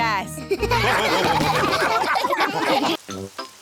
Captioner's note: all laugh